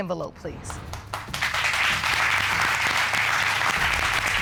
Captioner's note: audience applauding